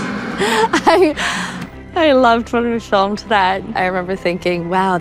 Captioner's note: laughs